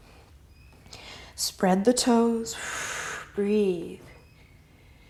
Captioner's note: exhale